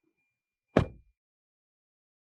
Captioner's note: door Thud